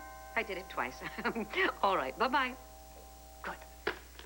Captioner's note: ring